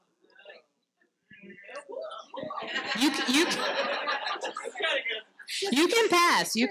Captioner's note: participants chatting in background